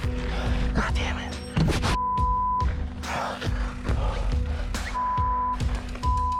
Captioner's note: beep